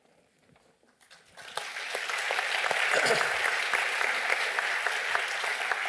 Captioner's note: applause